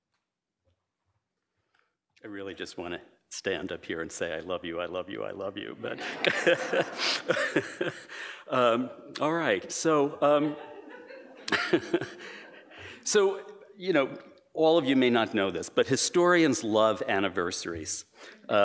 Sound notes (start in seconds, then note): 5.8 laughing; 10.2 chuckling